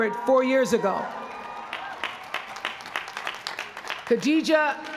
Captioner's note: applause